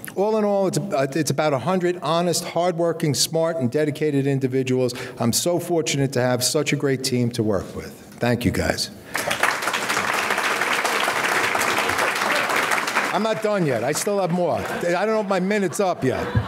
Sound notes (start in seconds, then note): 9.1 audience clapping